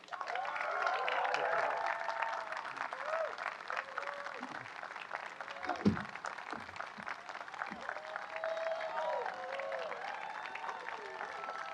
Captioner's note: applause